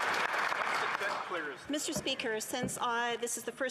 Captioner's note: some Applause